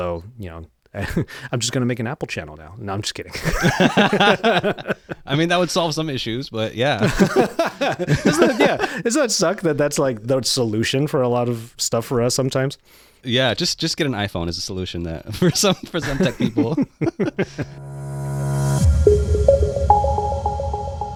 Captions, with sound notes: So, you know, I'm just gonna make an Apple channel now. No, I'm just kidding. (laughs) - I mean, that would solve some issues, but yeah. (laughs) - Yeah, it's not suck that that's like that solution for a lot of stuff for us sometimes. - Yeah, just get an iPhone as a solution that for some tech people. (laughs) (upbeat music)